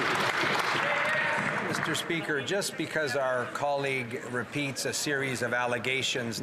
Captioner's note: some Applause